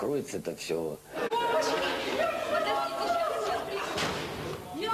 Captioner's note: concerned yelling